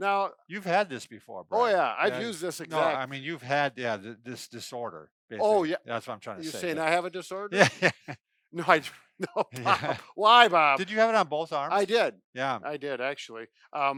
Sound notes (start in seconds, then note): 9.2 laughs